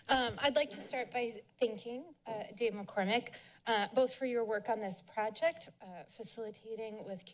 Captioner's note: none